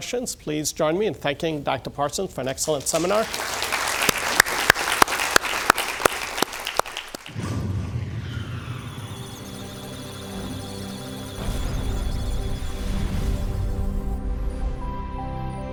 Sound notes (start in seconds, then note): 2.7 applause; 8.6 musical tones; 8.8 electronic sounds of data